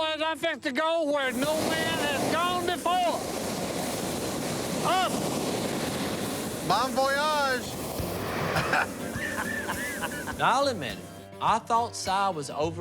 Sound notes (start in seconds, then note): 8.5 laughter